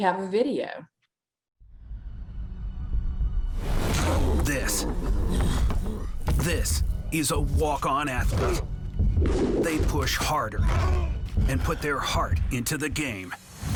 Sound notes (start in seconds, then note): 1.9 intense music; 4.0 athlete grunting